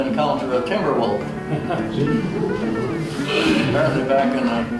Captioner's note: assorted gasps